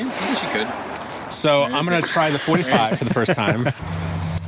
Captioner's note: chuckling